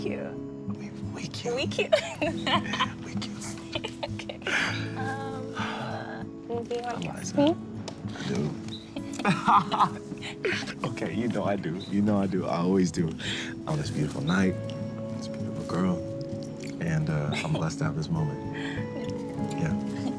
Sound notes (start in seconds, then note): 1.8 laughing; 19.5 tender music